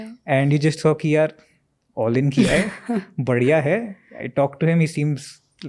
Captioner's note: speaks in Hindi